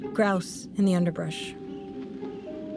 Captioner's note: the distinctive noises of a whistling wind, birdsong, etc